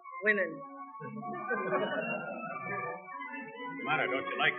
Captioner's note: soldiers laughing